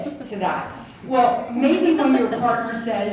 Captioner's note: audience chuckles